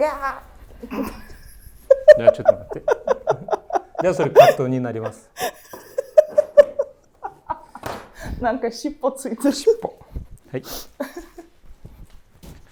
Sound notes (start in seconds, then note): 2.7 laughing; 9.4 laughing